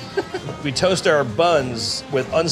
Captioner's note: person laughing